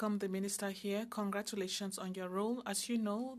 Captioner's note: speaking French